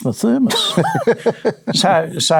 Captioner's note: laughing